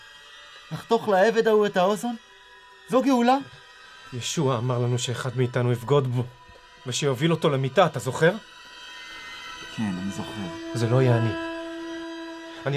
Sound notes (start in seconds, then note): 1.0 speaking in foreign language